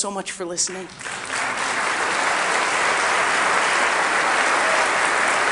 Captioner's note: audience applauding